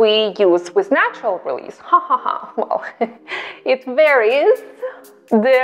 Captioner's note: laughs